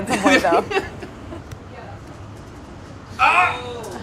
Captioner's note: laughing